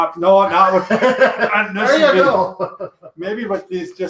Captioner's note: laughs